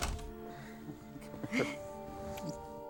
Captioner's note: both chuckling